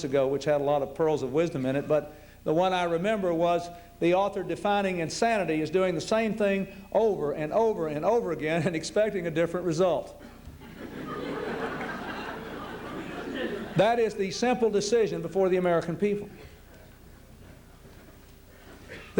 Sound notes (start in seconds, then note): 10.4 laughter